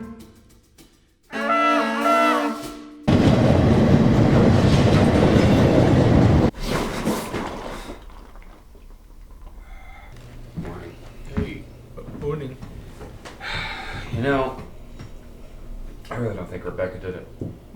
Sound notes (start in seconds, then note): 3.0 train passing